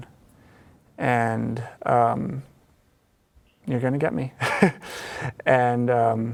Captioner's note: laughs